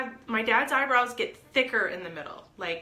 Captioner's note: none